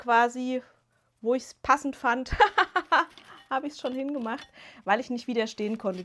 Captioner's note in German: gelächter